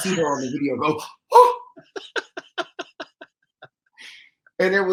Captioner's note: laughs